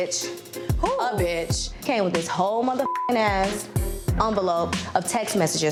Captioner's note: beep